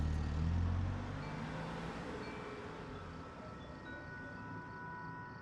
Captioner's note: wind chimes tinkle